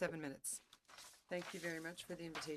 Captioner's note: speaking French